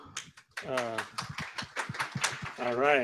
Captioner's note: scattered applause